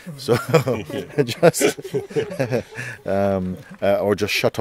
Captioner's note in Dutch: gelach